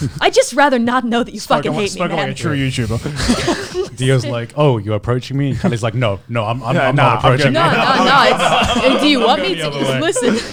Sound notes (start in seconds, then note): 3.6 laughs; 8.4 laughs